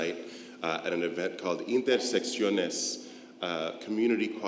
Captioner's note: speaks foreign language